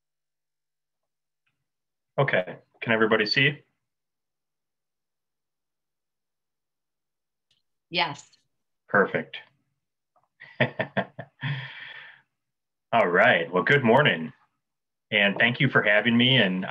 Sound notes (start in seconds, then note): 10.4 laughing